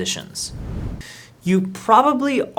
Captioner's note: air whooshing